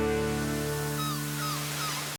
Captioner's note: seagulls cawing